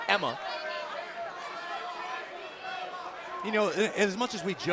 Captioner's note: crowd chatter